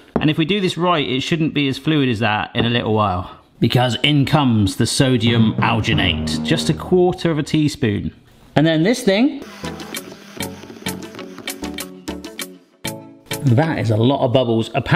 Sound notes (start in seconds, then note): 9.5 blender whirring; 9.9 funky music